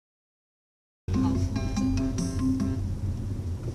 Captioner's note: phone ringing